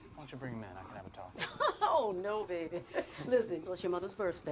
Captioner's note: Betty laughs